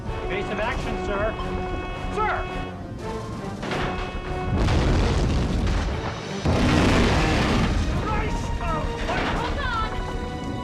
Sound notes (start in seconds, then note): 4.4 crash